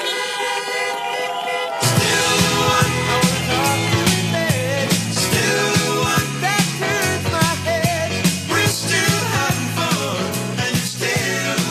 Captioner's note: horns honking